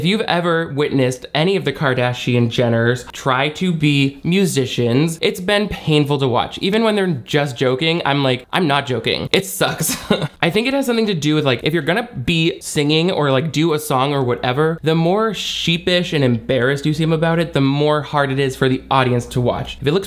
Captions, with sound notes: if you've ever witnessed any of the Kardashian-Jenners try to be musicians, it's been painful to watch. Even when they're just joking, I'm like, I'm not joking. It sucks. (chuckles) I think it has something to do with like, if you're gonna be singing or like do a song or whatever, the more sheepish and embarrassed you seem about it, the more hard it is for the audience to watch.